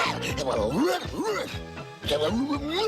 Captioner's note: brain barking